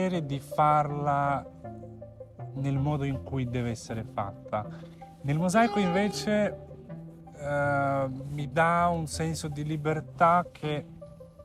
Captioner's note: horn